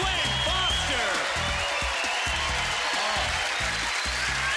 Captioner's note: cheers and applause